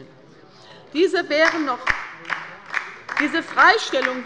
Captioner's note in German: Beifall bei der LINKEN